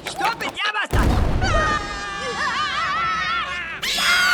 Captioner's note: screaming